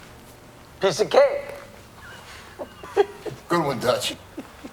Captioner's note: laughing